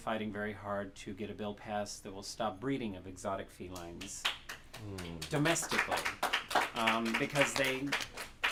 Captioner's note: applause